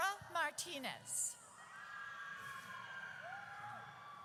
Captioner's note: audience cheers